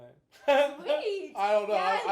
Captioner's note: laughing